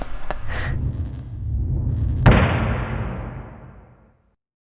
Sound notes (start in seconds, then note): 0.0 man chirping; 0.0 wind whooshing; 2.4 stamp thuds